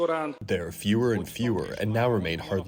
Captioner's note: through translator